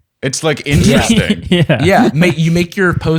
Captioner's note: laughing